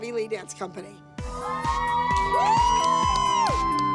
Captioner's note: cheering